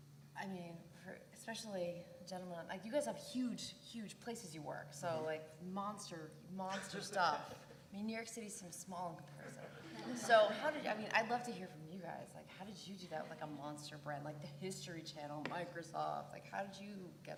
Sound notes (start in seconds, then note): 9.4 laugh